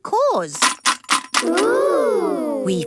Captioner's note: coins jangling